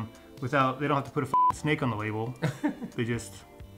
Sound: beep

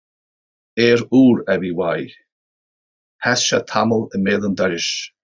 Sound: speaks irish

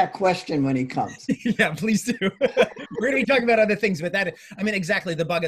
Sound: laughs

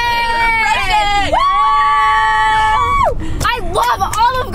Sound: all cheer

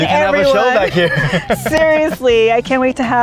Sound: laughing

